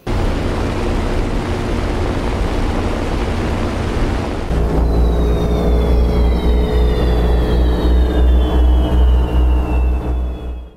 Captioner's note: sound of airplanes